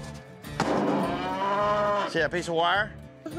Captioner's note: mooing